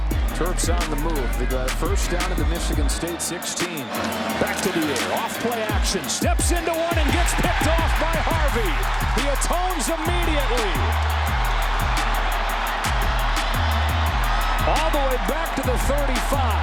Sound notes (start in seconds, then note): 10.7 crowd cheers